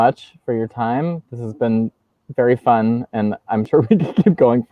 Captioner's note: laughs